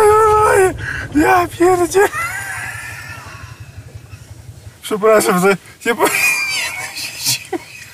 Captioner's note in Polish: śmiech